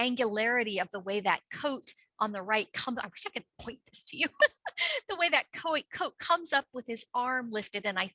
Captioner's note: laughs